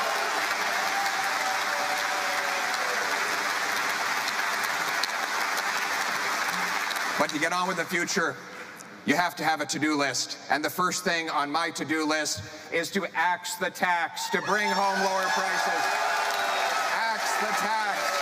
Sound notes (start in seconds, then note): 4.0 cheering